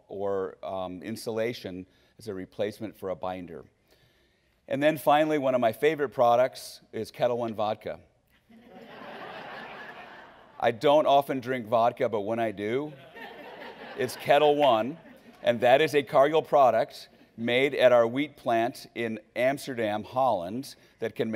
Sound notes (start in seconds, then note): 8.4 laughing